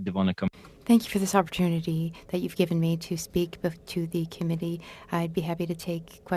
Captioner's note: speaking French